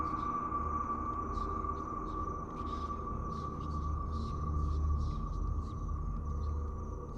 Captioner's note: ghostly voices whispering